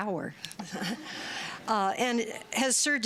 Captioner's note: laughter